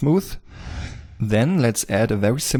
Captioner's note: air whooshing